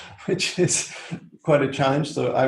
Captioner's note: laughs